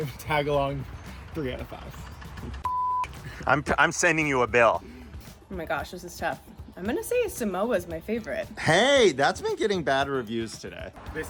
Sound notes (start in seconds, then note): 2.6 beep